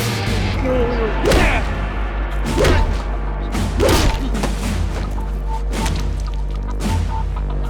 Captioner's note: blows thudding; fighter groaning; tense music; blows thudding